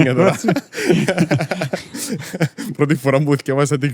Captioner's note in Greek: γέλιο